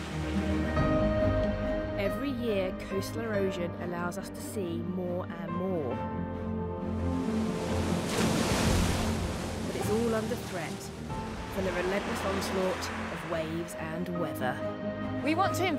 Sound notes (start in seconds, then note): 0.0 gentle piano and orchestral music; 6.9 waves crashing